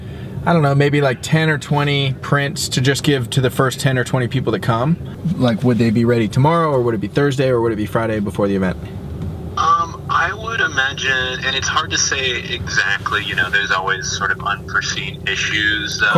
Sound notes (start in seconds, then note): 9.7 voiceover